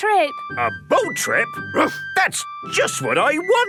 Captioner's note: barks